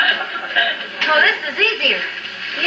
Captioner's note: laughter from audience